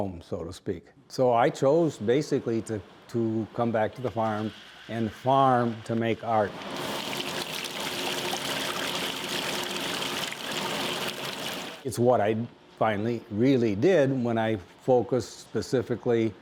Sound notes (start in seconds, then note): 10.0 water sloshing